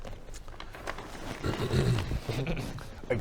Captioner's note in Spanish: se aclara la garganta